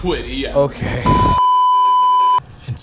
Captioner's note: ʙᴇᴇᴇᴇᴘ